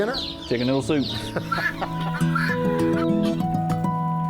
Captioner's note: laughter